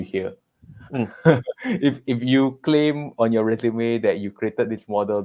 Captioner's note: laughs